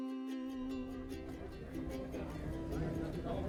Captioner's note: crew chattering